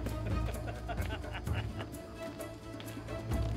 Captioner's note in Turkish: Gülme sesleri; Ayak sesleri